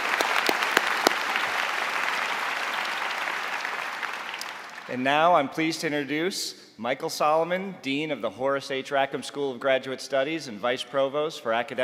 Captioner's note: applause